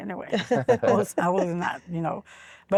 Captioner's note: laughter